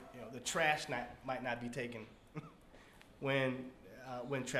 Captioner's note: laughs